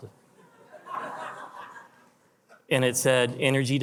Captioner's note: attendees laugh